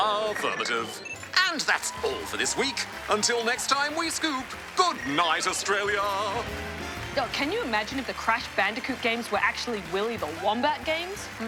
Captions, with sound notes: Affirmative. And, that’s all for this week. Until next time we Scoop…goodnight Australia! (applause) Can you imagine if the Crash Bandicoot games were Willy the Wombat games…